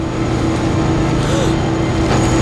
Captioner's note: gasps